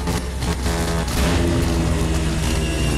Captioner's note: sputter sputter sputter